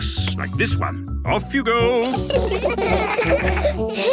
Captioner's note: laughter